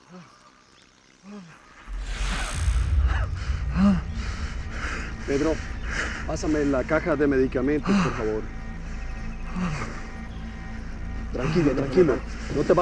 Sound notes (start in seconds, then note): 4.0 breathing heavily; 4.9 conversing in spanish